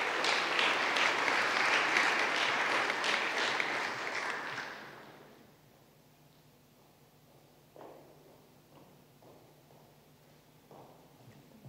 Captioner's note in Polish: oklaski